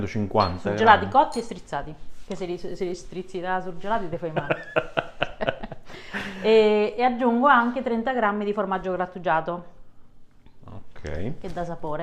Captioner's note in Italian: Risate